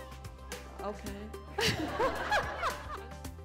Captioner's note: laughter